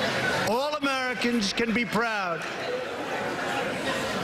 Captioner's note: cheering